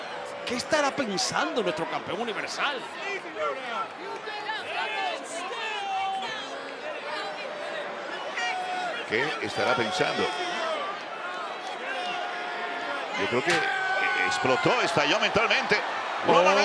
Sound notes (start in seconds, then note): 3.8 applause